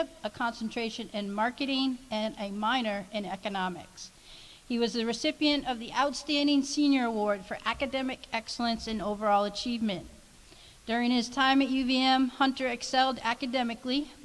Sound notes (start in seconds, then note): none